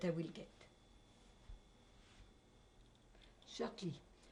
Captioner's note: pauses for 3 seconds